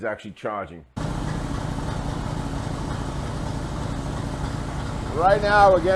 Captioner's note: engine idling